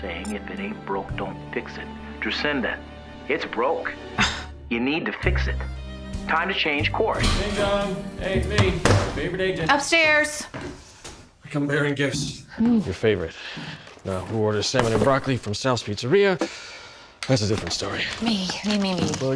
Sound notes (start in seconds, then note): 7.0 front door opens; 8.6 slams laptop shut; 9.6 footsteps approaching